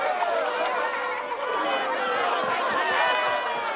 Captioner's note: excited chatter